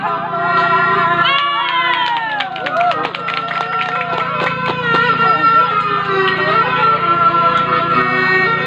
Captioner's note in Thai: ปรบมือ